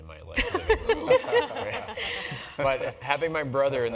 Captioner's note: laugh